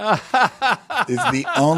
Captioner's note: laugh